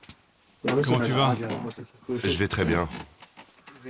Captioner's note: dzongkha spoken audio